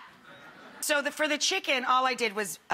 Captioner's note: laughing